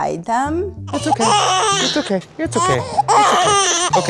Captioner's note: baby crying